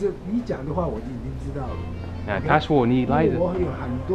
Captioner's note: mandarin